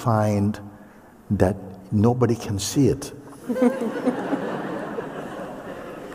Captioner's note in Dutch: gelach